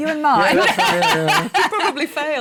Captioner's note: laughs